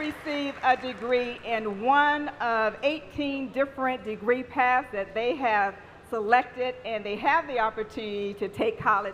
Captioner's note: applause